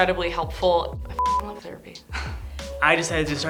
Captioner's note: beep